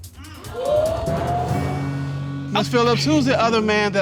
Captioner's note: audience exclaiming